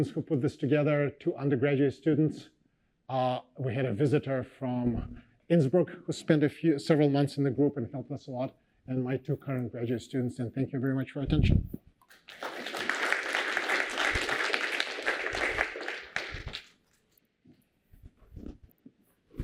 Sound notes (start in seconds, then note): 12.0 applause